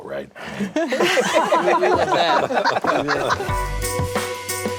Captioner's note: all laugh; upbeat music